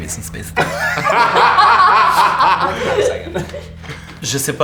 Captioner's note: the group bursts out laughing